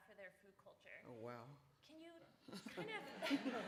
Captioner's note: laughter